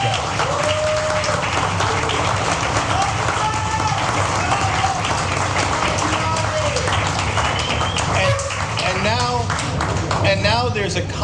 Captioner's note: applause